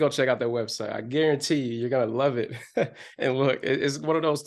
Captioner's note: chuckles